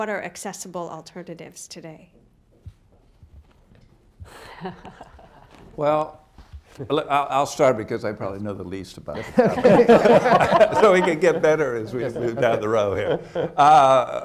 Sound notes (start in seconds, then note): 4.3 laughs; 9.1 laughter